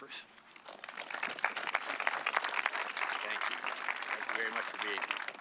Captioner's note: audience clapping